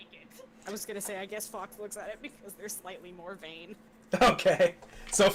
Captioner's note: laughing